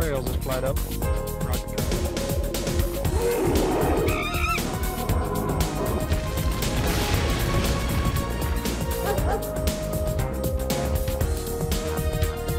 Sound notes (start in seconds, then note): 3.0 monkey noises